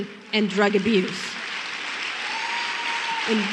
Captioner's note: applause